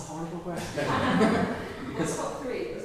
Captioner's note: audience laughs